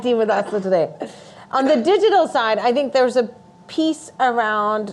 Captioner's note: laughing